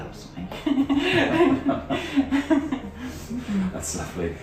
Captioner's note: both laughing